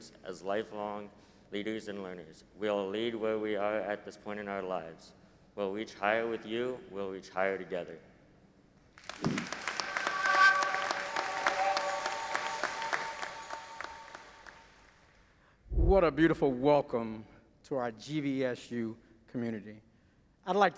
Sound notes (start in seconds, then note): 9.0 audience applauding